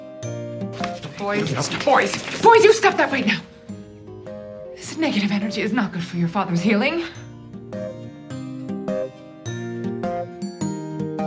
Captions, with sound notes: (boys slapping hands) - Boys, boys! Boys, you stop that right now! This negative energy is not good for your father' healing. (light playful music)